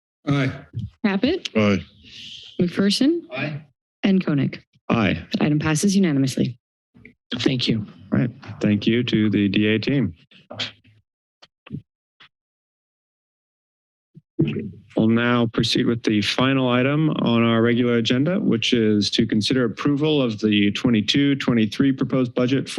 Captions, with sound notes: - Aye. - Caput? - Aye. - McPherson? - Aye. - and Koenig? - Aye. - Item passes unanimously. - Thank you. - Thank you to the DA team. [silence] We'll now proceed with the final item on our regular agenda which is to consider approval of the '22-'23 proposed budget